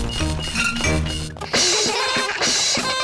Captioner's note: items clinking; all laugh